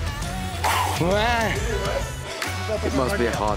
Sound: man chuckles

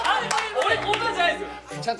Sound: laughs

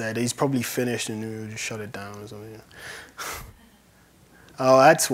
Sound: laughs

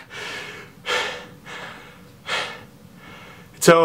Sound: pant

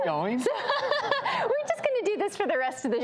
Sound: laughs

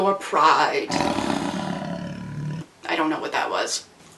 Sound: roars like a mighty lion

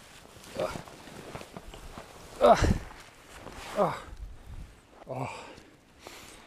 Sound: more pathetic whimpering

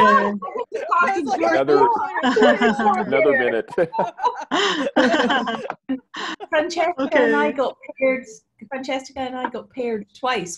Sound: background laughter and chatter from many

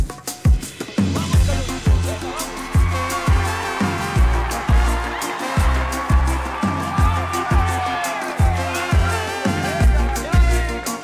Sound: ovación

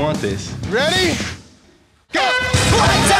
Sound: air horn blows

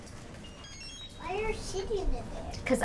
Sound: beeping

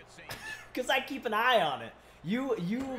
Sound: laugh

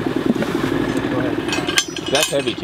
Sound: metals cluttering

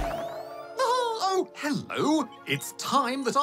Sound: chuckles

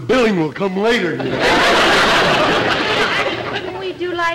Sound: audience laughter

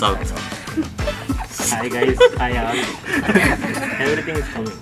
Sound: all break in laughter

